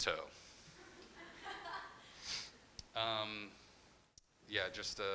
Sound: crowd member laughing

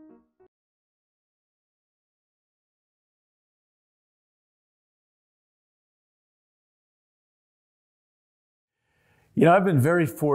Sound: pause

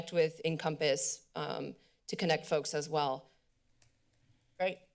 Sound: click sound

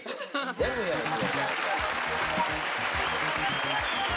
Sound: applauding

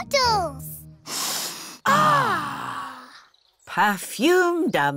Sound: all sniff

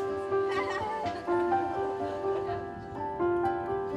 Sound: woman laughs

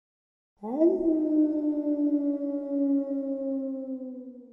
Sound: wolf howling

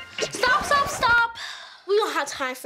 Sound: record scratching

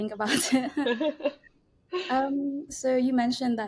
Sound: both laughing

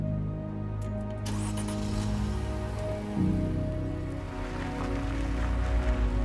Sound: car door closes; engine starts, car departs

